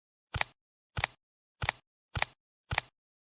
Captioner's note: approaching footsteps